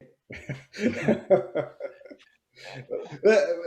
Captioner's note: laughing